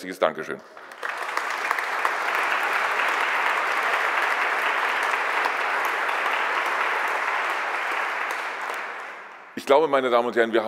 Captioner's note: applause